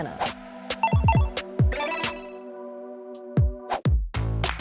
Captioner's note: digital ping